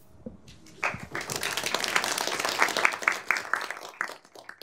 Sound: applause

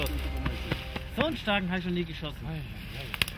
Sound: speaking in German

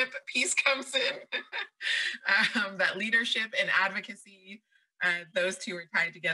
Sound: laughs

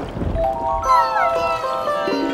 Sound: thundering; whimpering

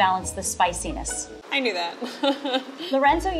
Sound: laughs

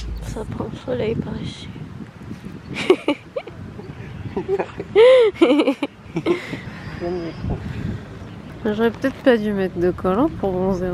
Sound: laughs

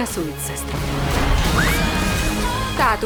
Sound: both scream

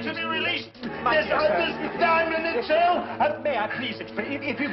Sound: shouting

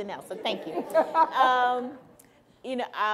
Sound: laughing

